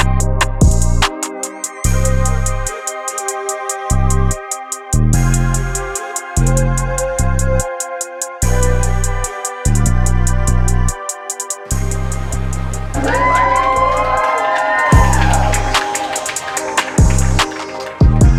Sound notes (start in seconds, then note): 12.9 cheering